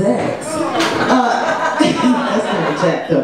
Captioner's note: audience laughs